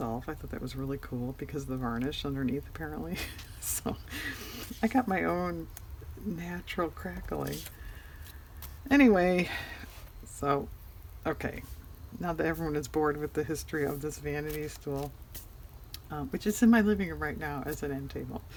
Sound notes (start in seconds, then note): 3.2 laughs